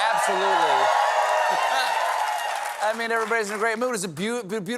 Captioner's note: cheers and applause